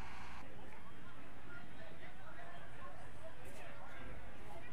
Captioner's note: crowd chattering